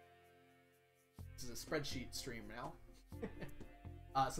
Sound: chuckles

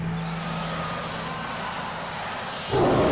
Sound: roars

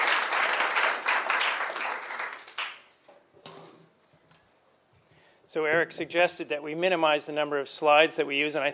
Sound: applause

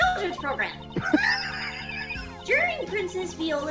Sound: wheezing

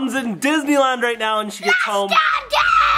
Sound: children screaming

